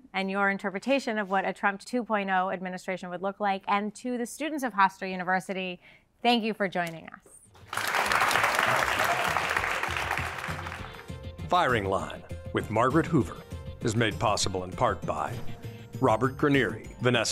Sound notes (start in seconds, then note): 7.6 audience applauding